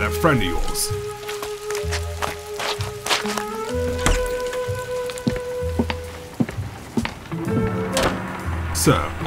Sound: footsteps

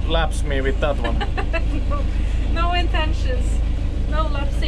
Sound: laughing

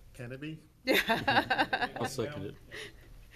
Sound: people laughing

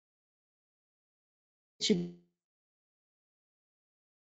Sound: audio goes out for a few seconds

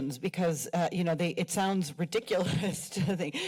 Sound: chuckles

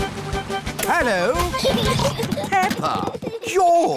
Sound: children giggling

